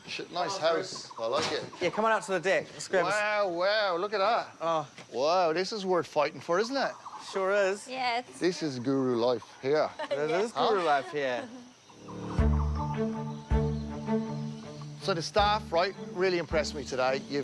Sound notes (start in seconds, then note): 9.9 laughs; 12.0 tense music